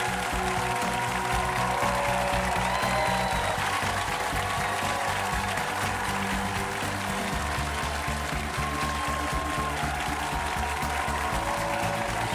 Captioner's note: applause